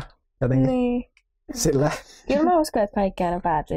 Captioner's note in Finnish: Eevert naurahtaa